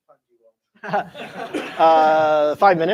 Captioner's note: laughter